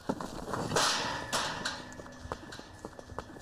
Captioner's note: gate clanging